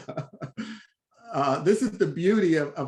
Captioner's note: laughs